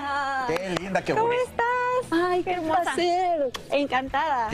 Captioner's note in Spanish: aplausos